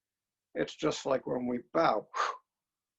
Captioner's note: exhales